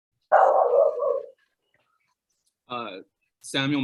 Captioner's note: dog barking